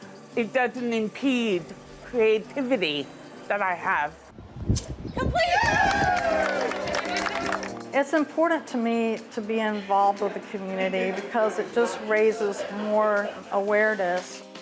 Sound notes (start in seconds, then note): 5.2 group cheering; 5.8 upbeat music